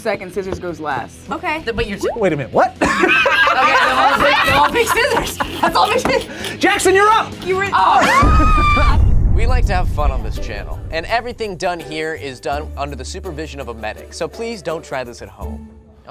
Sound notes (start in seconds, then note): 2.8 group laughs; 6.2 laughs; 8.2 explosion echoes